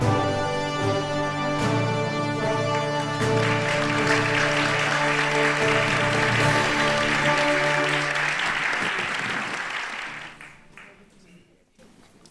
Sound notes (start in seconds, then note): 2.4 applause